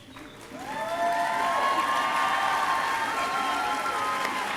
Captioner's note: crowd cheering